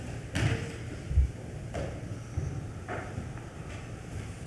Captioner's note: attendees rustling